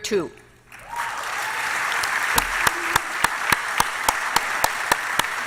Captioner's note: applause